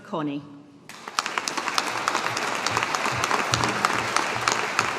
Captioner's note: audience applauding